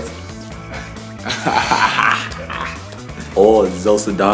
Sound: laughs

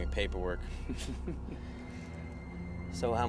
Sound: chuckling

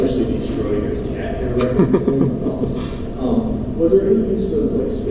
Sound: chuckling

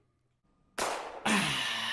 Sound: gunshot

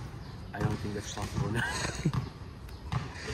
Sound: laughs

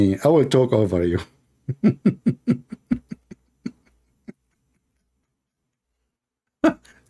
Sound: Ketawa

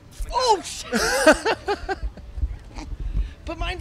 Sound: laughs

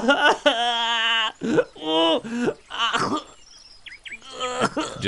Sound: weeping loudly

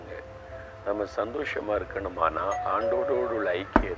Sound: bell rings

